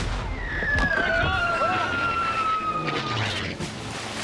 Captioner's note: booming; whistling; splashing